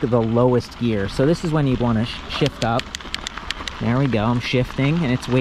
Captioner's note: clicking